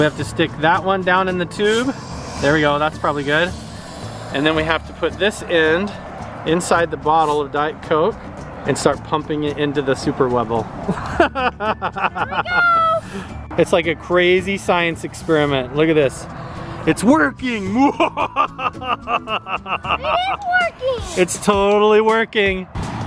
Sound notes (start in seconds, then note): 10.9 laughs